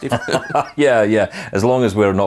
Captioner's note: laughing